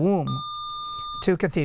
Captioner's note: buzzer